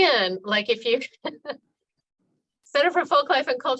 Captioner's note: laughing